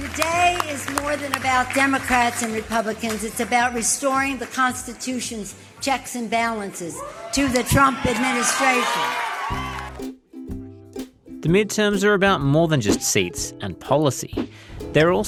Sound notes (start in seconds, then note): 9.8 cheering